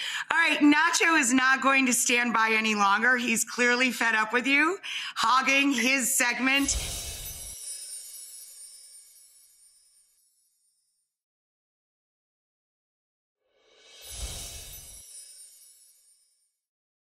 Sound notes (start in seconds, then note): 6.7 chimes play; 14.5 chimes continue